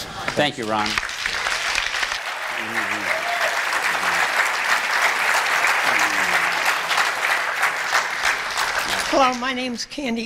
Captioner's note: applause